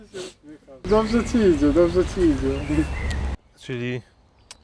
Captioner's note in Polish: parsknięcie